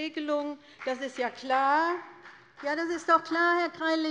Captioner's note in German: Beifall des Abg